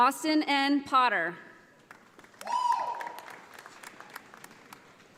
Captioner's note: audience applauding